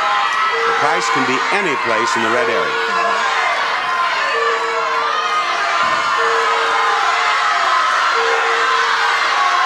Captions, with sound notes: Price can be any place in the red area. (audience shouts suggestions)